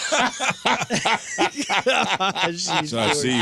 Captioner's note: laughing